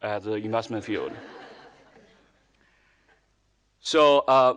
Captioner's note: audience laughing